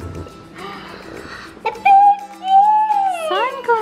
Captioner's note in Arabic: تلهث والثرثرة